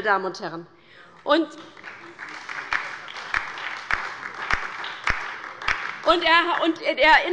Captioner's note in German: Beifall bei der LINKEN und der SPD